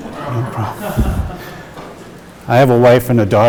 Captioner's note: audience laughing